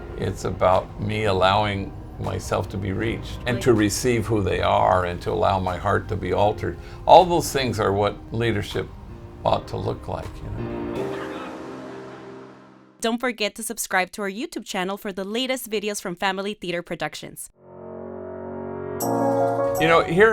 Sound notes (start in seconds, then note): 10.5 mellow music; 11.1 people chattering; 17.6 uplifting music